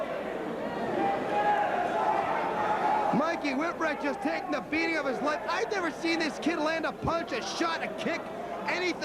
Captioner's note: crowd chattering